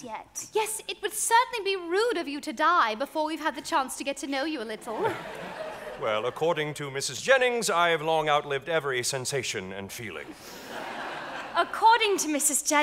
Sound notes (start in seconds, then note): 4.8 audience laughing